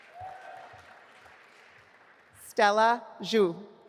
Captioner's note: audience applauding